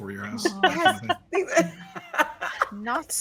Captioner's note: laughing